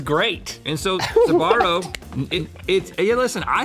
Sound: laughing

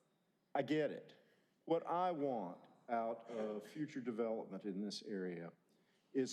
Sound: laughter

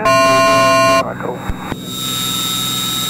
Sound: beeping

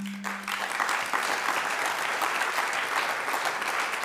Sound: applauding

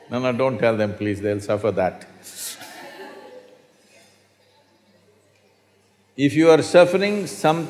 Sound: laughter

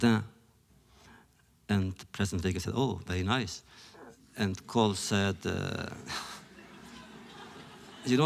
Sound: laughter

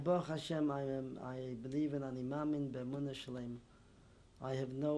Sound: non-english

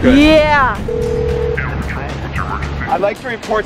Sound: phone ringing

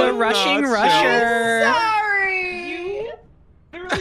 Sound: sobbing

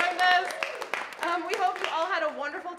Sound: audience applauding

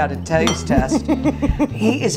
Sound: laughs

